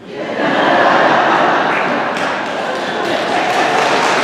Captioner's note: laughter and applause